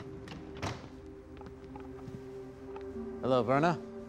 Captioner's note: opening and closing door